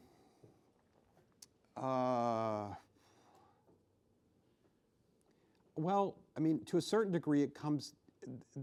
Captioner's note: exhales sharply